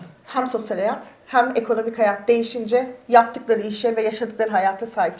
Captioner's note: speaks in Turkish